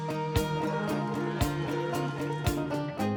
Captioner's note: cattle lowing